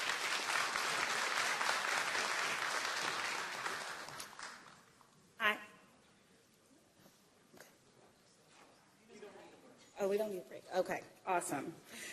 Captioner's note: applause